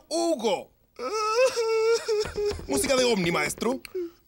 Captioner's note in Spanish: Juanín se va llorando